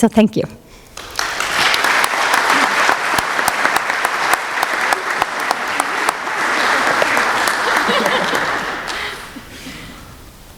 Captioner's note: applause